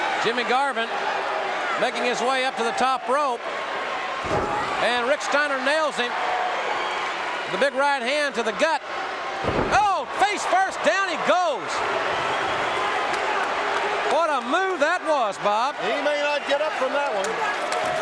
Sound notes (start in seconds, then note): 12.1 audience cheering